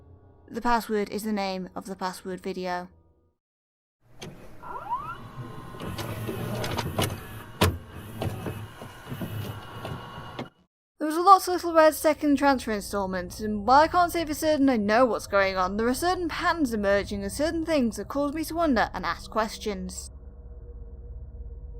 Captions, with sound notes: The password is the name of the Password Video. [VHS noises] There is a lot to Little Reds second Transfer installment, and while I can’t say for certain I know what’s going on, There are certain patterns emerging and certain things that cause me to wonder and ask questions.